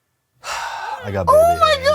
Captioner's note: sighs